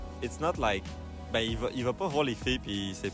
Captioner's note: speaking French